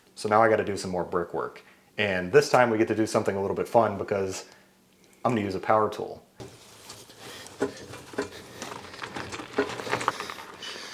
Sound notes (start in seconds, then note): 6.4 footsteps crunching